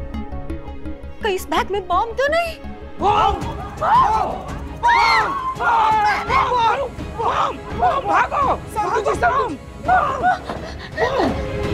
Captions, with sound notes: What if this bag has a bomb? - Bomb! [everyone clamouring] - Bomb! Everyone, run! - Bomb!